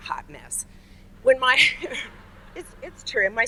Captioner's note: audience laughs